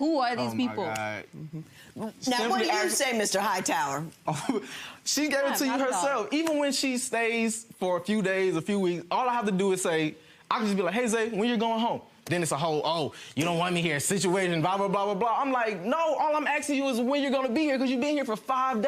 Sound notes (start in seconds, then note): 5.0 laughs